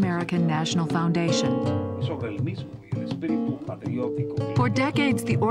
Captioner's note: speaking Spanish